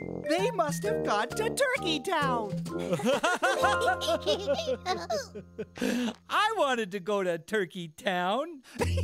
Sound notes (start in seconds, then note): 2.8 laughing